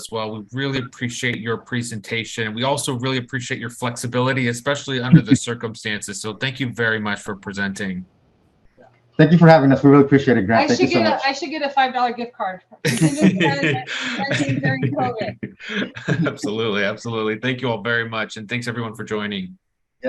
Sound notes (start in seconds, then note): 12.8 laughing drowns out speaker; 12.8 laughs